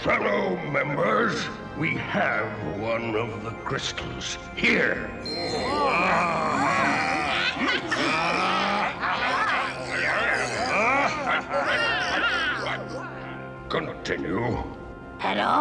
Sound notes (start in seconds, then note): 5.2 all oohing; 5.3 exclaiming